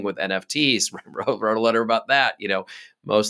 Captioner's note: laughing